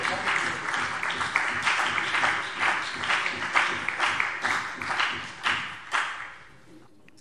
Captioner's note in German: Beifall CDU und BÜNDNIS 90/DIE GRÜNEN